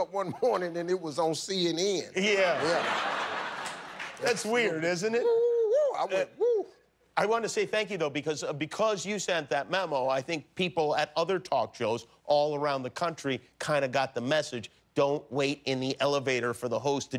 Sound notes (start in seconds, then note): 4.3 laughter